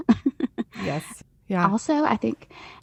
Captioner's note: chuckles